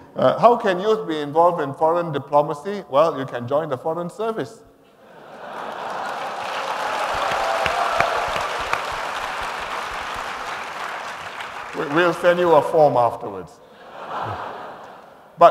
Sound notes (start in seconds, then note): 5.0 laughter and applause; 13.7 laughter